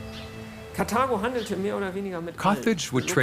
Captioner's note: speaking in foreign language